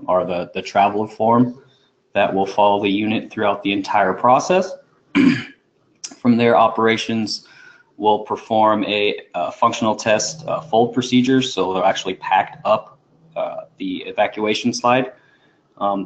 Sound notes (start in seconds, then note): 5.1 cough